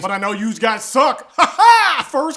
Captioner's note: weird laughing